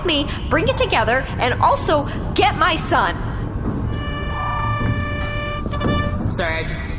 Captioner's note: blows a horn